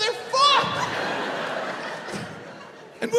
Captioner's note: crowd laughs